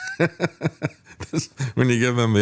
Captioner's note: laughing